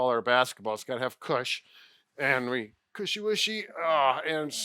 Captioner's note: groans